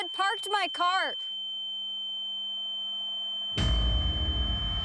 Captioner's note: high pitched tone; dramatic musical score